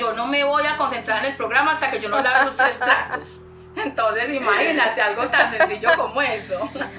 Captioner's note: laughs